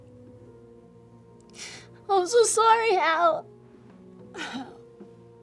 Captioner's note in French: sanglote